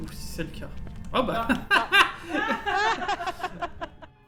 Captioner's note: laugh